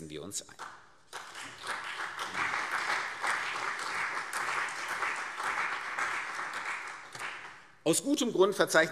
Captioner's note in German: Beifall CDU und BÜNDNIS 90/DIE GRÜNEN